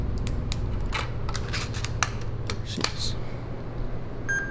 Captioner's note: equipment clicking